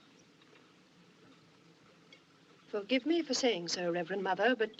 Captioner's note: none